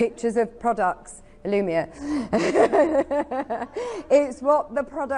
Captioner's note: giggles